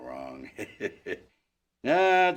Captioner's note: laugh